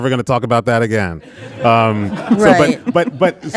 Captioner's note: audience laughing